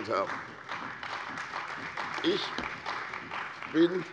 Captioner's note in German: Beifall bei der CDU und dem BÜNDNIS 90/DIE GRÜNEN